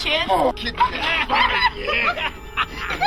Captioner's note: laughter